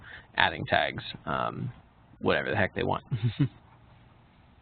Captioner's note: chuckles